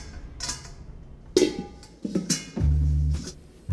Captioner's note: metal lid clangs